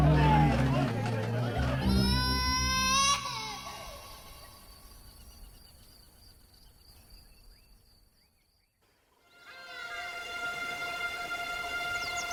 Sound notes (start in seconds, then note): 1.5 people shouting and baby crying; 9.2 somber music